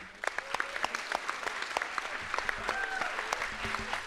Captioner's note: audience applauds